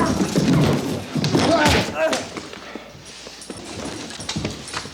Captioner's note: TJ groans